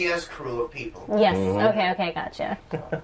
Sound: sounds of agreement

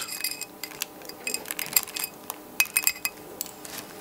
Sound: metal clinking

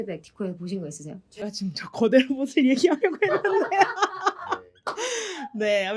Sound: laughs

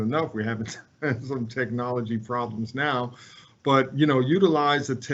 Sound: laughs

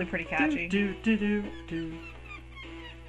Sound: hums

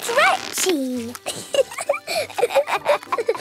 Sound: both laughing

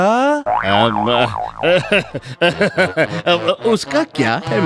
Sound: laughs

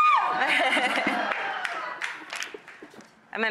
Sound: laughter and clapping

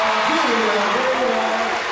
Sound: crowd cheering

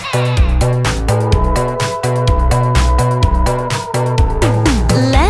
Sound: evil laughter; howls

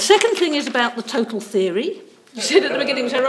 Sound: pages rustling

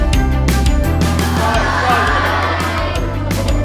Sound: audience join in

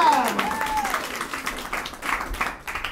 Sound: applause

